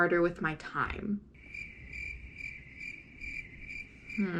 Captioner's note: crickets